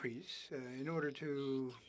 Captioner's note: speaking French